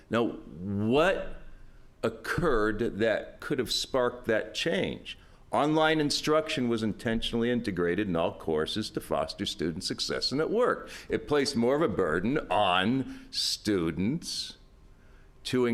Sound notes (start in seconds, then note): none